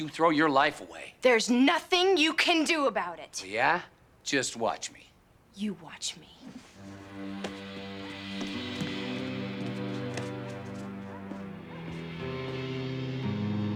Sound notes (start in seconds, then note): none